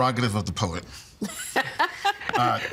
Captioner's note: laughing